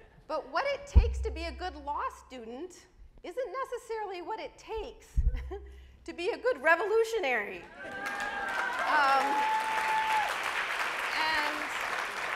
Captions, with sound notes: But what it takes to be a good law student isn't necessarily what it takes (chuckles) to be a good revolutionary. (audience applauds)